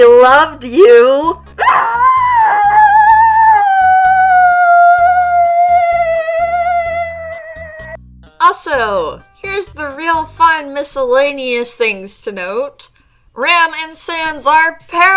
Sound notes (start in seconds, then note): 8.4 muffled screaming into pillow x 2